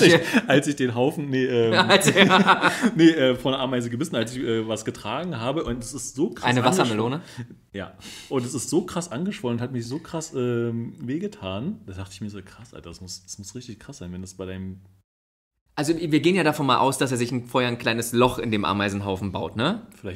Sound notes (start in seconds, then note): 1.7 laughs